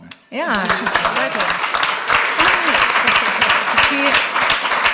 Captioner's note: applause